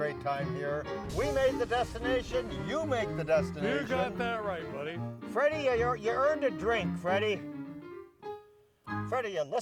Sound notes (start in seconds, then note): 0.9 sizzles